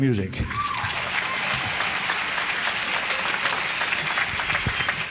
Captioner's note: audience applauds